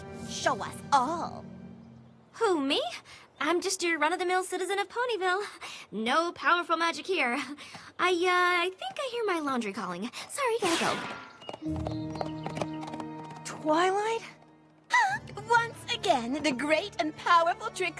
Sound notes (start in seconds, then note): 11.2 hoofbeats